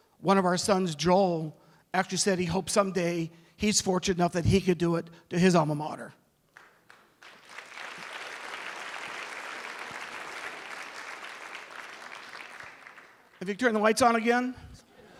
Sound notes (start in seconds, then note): 6.5 applause